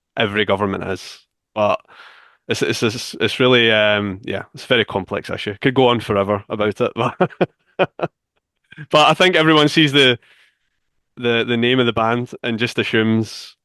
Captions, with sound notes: every government is. But it's very complex, actually. Could go on forever about it. [laughs] But I think everyone sees the name of the band and just assumes,